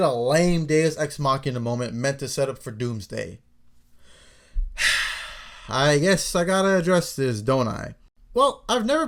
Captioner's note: sigh